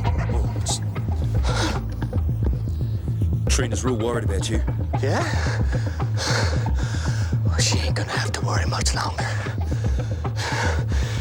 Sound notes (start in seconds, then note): 5.9 panting